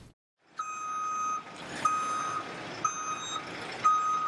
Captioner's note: reversing alarm beeps